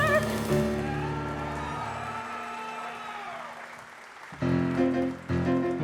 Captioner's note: audience applause